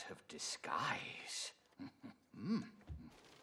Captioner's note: chuckles